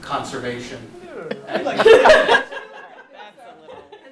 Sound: laughter

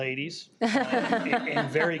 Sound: people laugh

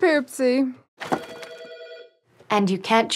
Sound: office phone ringing

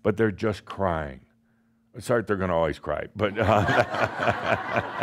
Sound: laughter

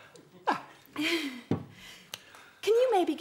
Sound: sighs

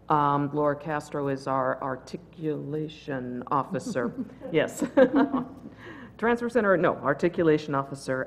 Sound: laugh

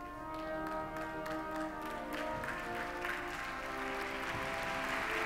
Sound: audience applauding

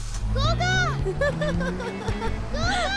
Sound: car moving; Tarini laughs

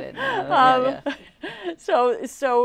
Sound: laughing

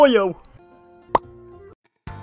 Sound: pop

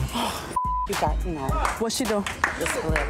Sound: beep

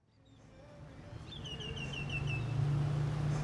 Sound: ambient traffic noise

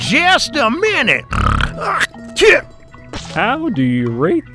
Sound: man spits down

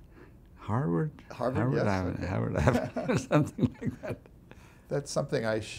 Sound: laughs

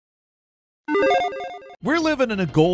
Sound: logo tinkles

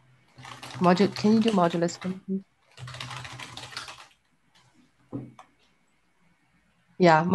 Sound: keyboard clattering

